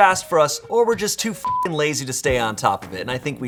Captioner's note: beep